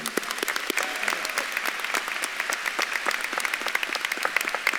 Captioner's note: audience claps and cheers